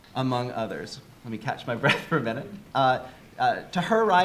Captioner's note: chuckles